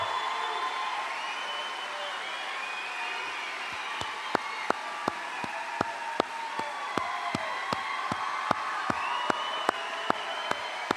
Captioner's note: applause